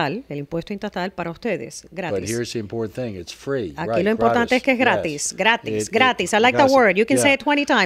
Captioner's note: Hablando ingl\s